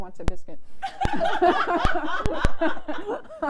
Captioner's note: laughs